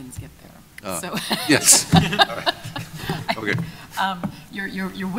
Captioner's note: chuckling